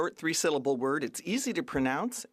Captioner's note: speaking French